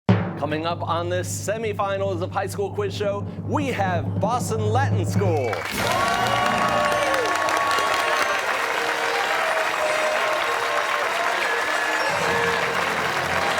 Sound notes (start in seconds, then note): 5.6 fanfare plays; 9.9 cheers and applause